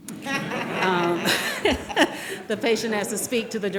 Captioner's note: audience laughing